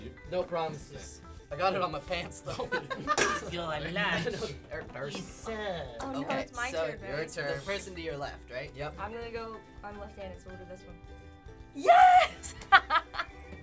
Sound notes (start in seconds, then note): 2.4 laughs; 3.8 medieval voice; 12.4 chuckles